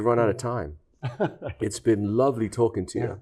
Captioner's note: chuckles